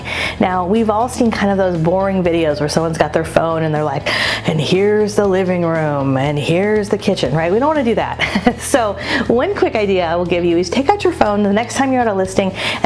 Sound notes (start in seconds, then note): 8.1 giggles